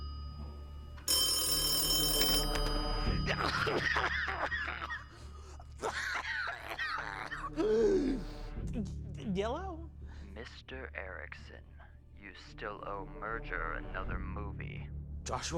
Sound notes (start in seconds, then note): 2.0 phone ringing; 3.2 coughing